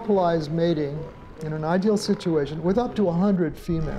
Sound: seal trumpets

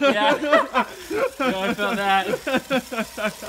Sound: laughing

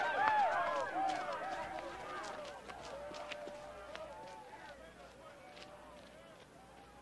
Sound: cheering

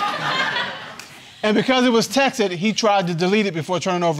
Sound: audience laughing

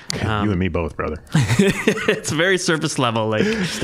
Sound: laughing

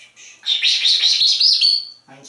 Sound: makes Whisper Sounds; whisper Sounds

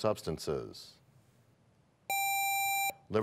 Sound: none

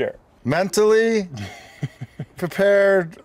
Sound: chuckling

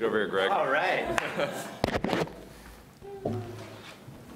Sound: laughing

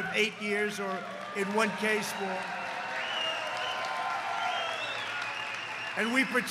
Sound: applause

